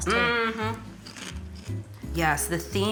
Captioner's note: chewing